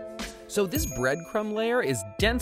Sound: bell dings

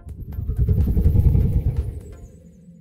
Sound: air whooshing

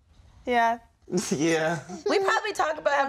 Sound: laughs

